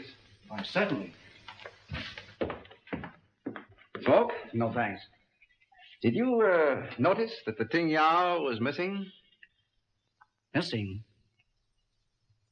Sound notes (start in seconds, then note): 2.1 Wrede's footsteps